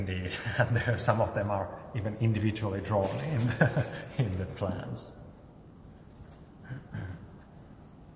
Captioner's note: laughs